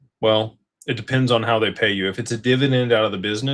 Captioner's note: none